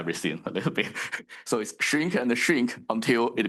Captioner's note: chuckles